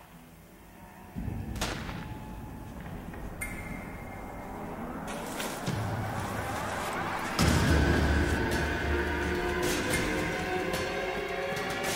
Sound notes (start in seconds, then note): 1.5 another gunshot; 7.0 scary music